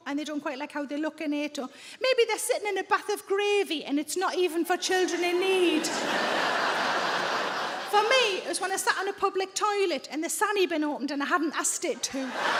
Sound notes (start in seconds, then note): 5.5 audience laughs; 12.2 audience laughs